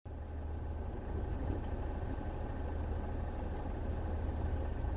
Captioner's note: car engine idling